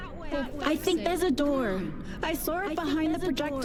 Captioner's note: dialogue echoes